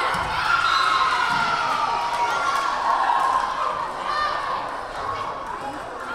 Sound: crowd cheering; whistle blaring

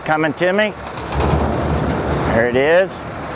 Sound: scraping

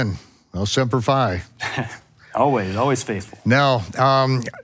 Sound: laughing

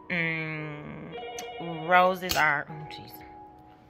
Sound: rings

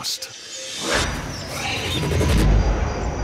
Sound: squeals

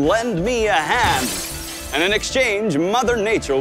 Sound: glass breaking

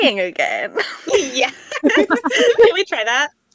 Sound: laughing

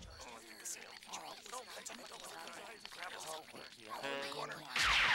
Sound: crowd muttering

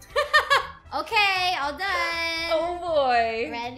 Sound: laughs

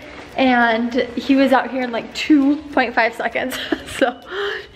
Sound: laughs

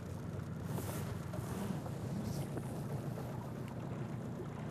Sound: reel spinning; boat engine running

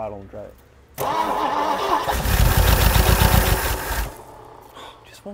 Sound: engine revs

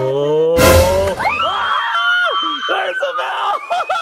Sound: people screaming

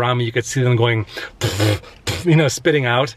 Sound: spitting

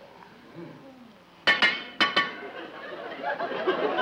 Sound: metal clanking; audience laughs

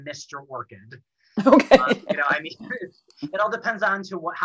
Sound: laughs

